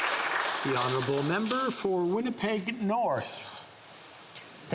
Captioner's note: applause